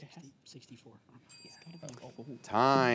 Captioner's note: bell dinging